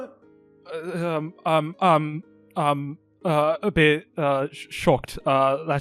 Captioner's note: stutters